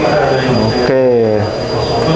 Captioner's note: distant chattering